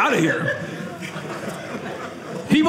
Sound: audience laughing

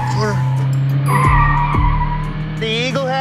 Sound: car engine/tire sounds

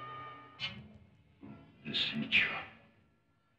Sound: caveman speaking

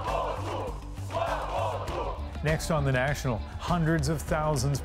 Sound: chanting

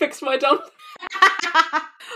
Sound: laughs

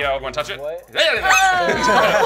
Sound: scaring sound; shrieks; laughter

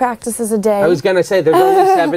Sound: laughs

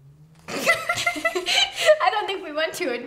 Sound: giggles

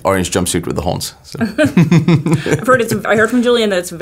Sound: laughing

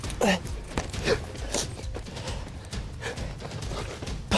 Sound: huffing and puffing

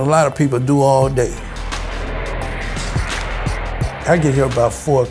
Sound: airplane engine roars

